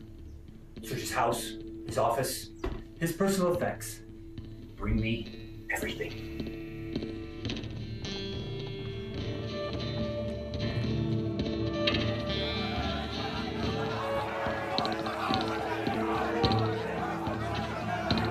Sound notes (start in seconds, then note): 6.4 indistinct chatters; 6.4 somber music